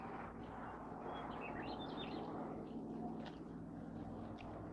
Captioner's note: birds chirping